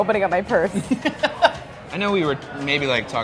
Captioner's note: laughing